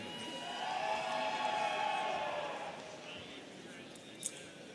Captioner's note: students cheering